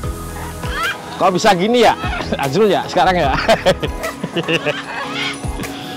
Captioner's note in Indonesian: Ketawa